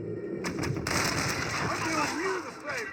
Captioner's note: sounds of target lock and fire